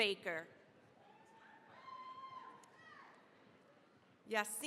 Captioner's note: cheering, applause